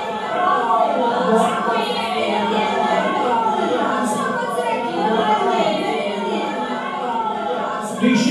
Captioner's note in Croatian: Glasan govor ljudstva